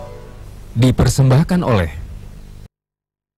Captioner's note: non-english speech